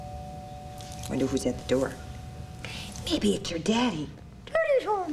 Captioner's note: doorbell rings